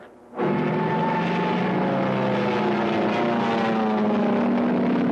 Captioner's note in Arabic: هدير محركات الطائرة